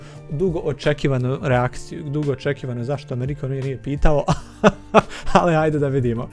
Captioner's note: laughs